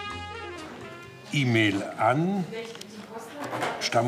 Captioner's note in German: Stimmengewirr